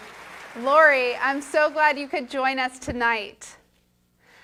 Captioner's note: applause